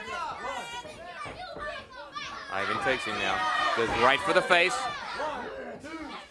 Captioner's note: crowd chatter